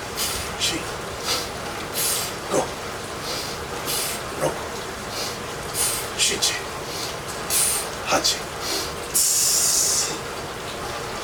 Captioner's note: audible Expelling of Air